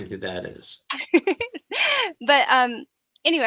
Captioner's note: laughing